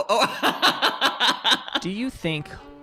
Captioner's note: laughing